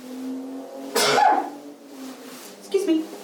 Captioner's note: sneezes